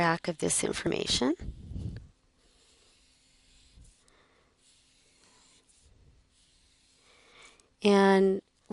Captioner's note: pause in speaking